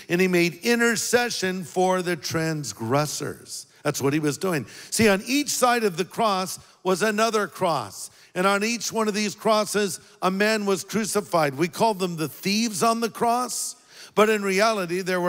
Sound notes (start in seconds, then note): none